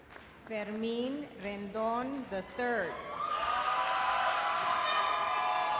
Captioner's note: explosive cheers and bull horn blows